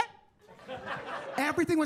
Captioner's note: attendees laughing